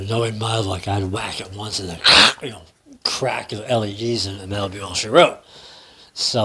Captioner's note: crack!